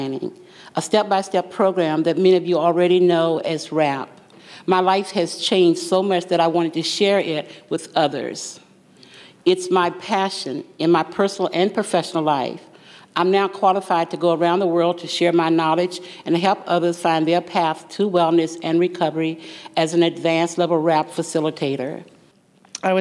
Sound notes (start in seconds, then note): none